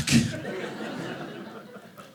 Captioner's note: audience laughing